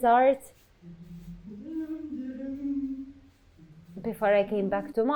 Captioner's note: humming